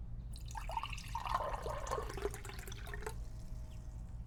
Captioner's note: water burbles